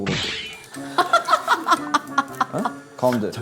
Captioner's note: laughing